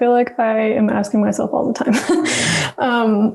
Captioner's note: laughs